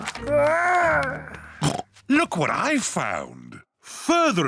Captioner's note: oinks